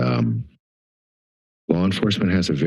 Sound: pause

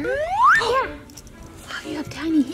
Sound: whooping

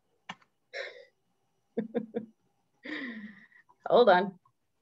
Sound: laughs

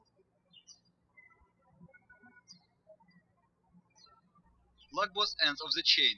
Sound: birds chirping

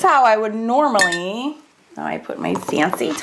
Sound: pen clangs

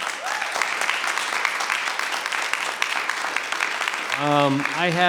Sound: audience applauds

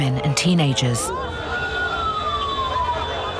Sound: horns blaring; indistinct cheering, whistling

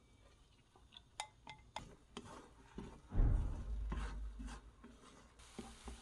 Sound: angry door sound

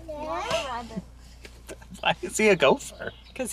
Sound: baby cooing

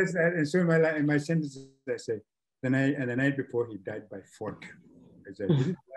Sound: signal jumps

